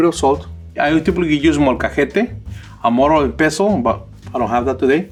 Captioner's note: speaks in foreign language